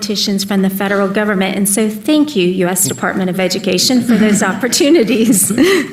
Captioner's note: laughter